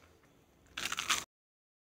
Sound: more crunching

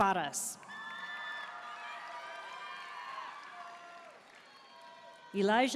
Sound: audience cheering and applauding

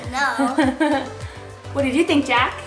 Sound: laughing

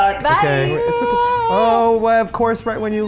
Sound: cries

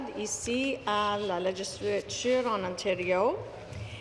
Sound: speaking French

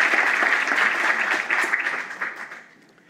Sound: applause

